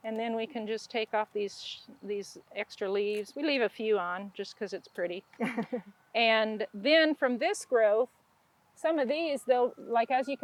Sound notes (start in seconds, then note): 5.4 laughs